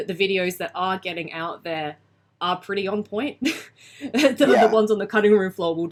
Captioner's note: laughs